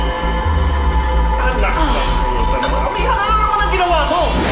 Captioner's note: people arguing